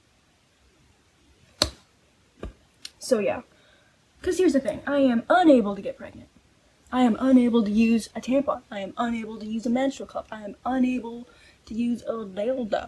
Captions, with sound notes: *mouth pop* so yeah Cuz here's the thing, i am UNABLE to get pregnant. I am UNABLE to use a tampon. I am UNABLE to use a menstrual cup. I am UNABLE to use a *silly goofy voice* d*ldo.